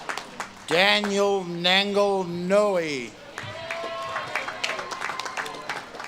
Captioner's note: audience claps and cheers